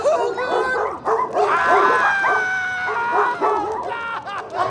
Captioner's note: dogs barking; screaming